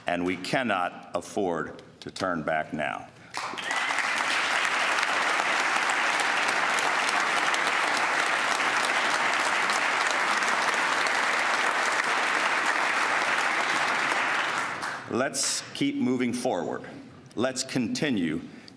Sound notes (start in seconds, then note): 6.5 applause